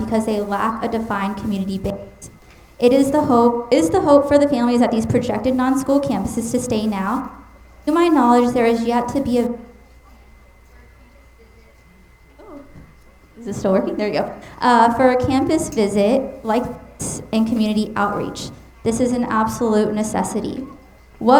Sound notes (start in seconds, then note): 9.6 mic cutting out